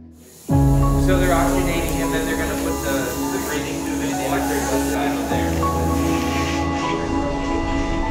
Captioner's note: people chattering